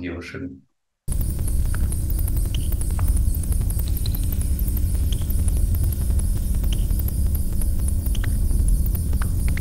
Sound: deep electronical noise

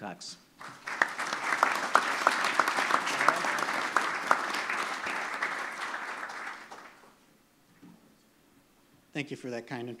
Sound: applause

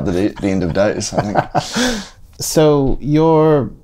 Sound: laughter

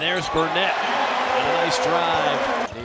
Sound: crowd cheering

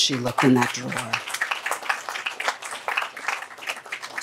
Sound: applause

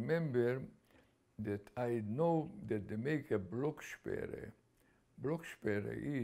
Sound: german

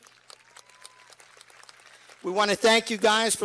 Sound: cheers and applause

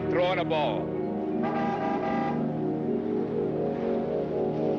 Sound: car horn honking

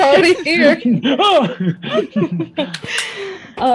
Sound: cast laughing

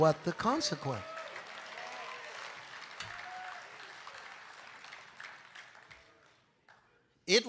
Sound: congregation applauding

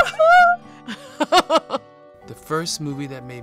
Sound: laughs

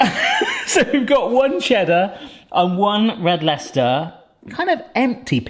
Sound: laughs

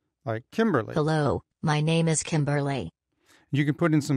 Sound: automated voice

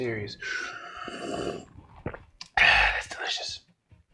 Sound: slurping drink

